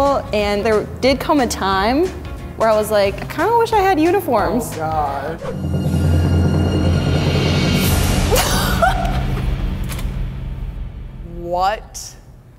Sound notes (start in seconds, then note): 4.3 ominous music; 8.4 laughing